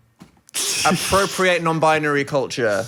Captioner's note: sneering